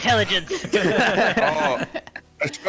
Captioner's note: more laughter